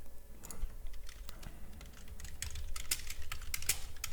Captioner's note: typing